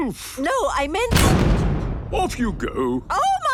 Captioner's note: blasts off